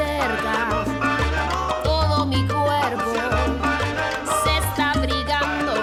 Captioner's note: none